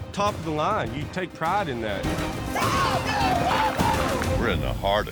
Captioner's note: cheering